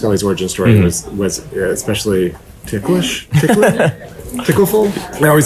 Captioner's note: laughing